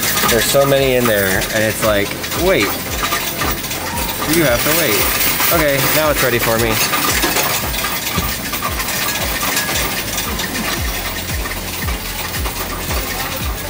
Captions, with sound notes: There's so many in there and it's like, wait. You have to wait. Okay, now it's ready for me. (coins rattling) (upbeat music)